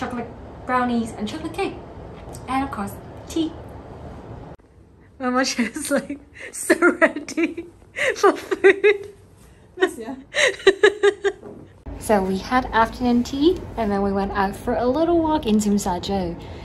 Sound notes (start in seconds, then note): 7.2 laughs